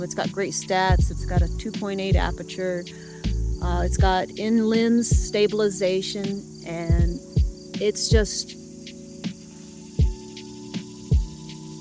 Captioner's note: cicada interupts